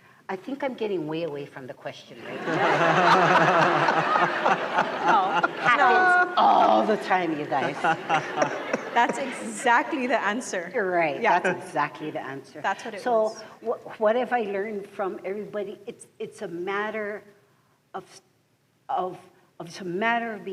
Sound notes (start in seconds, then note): 2.2 laughter; 7.4 laughter continues